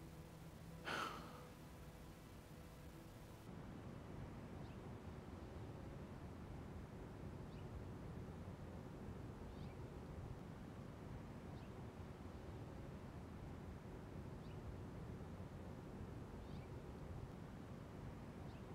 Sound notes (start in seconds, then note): 0.8 sighs softly